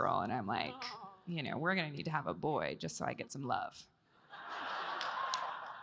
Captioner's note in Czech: Potlesk